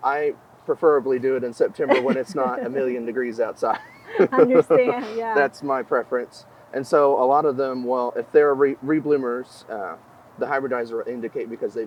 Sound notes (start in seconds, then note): 1.7 laughing; 1.8 interviewer chuckling